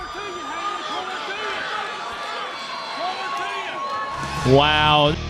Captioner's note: crowd is cheering